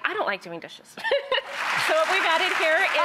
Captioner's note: laughing and audience clapping